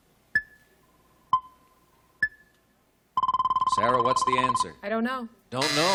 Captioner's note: beeping